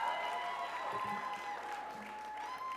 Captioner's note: crowd cheers